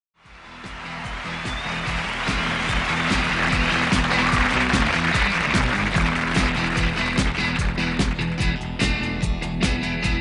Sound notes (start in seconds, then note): 0.2 lively upbeat music; 0.2 audience cheering